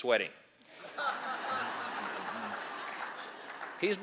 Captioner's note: laughter